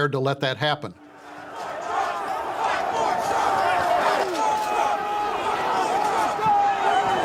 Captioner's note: chanting